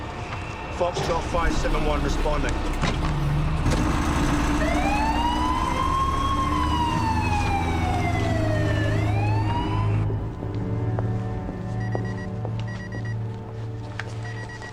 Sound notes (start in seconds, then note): 4.1 alarm blaring; 12.7 pager beeping